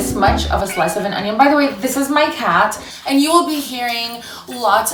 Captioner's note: cat meows